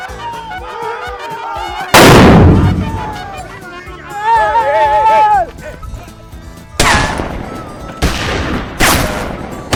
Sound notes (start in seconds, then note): 2.0 big blast; 8.0 gun Shots